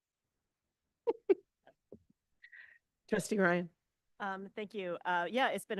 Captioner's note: laughs